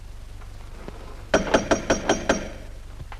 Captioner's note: knocking at door